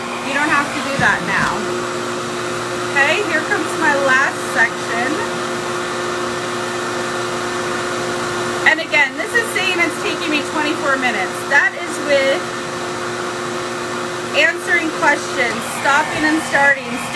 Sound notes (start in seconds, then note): 1.9 hair dryer whirs continues; 5.3 hair dryer whirs continues